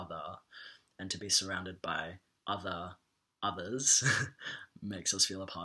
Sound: chuckles

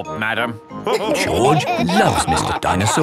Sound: all laughing

